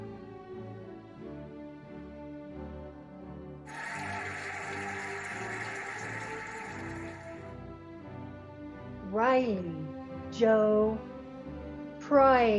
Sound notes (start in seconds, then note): 3.6 cheering and applauding